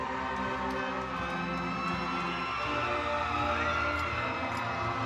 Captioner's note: audience cheering